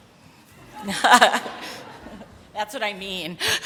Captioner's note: laughter